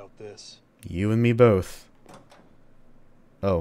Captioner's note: door closes behind